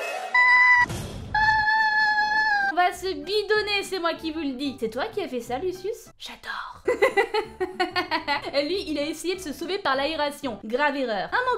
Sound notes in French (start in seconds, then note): 1.4 Cri de bonheur; 6.8 rires